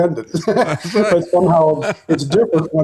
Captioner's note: laughing